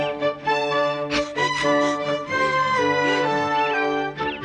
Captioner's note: breathes heavily